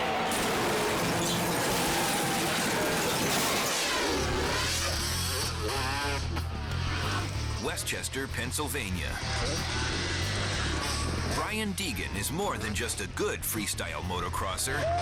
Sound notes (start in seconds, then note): 0.0 car crashing; 3.8 engine revving; 3.9 dramatic music